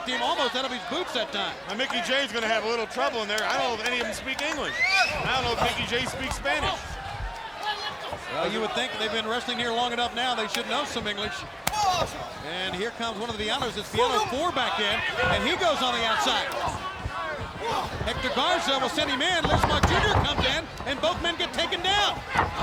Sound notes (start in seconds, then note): 11.7 hands thudding; 16.9 wrestlers grunting; 19.2 body thudding